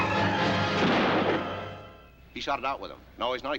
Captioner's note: car thudding